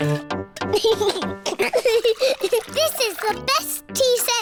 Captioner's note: giggles